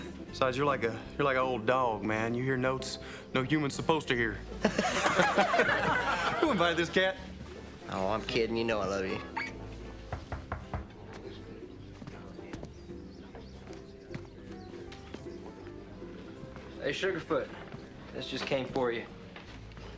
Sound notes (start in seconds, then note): 4.5 laughing; 10.0 knocking on door